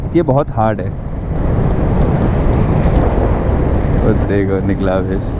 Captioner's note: wind noise